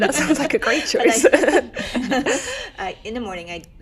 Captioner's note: laughs